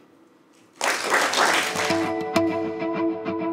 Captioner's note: applause